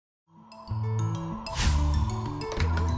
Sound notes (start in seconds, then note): 0.0 wind blowing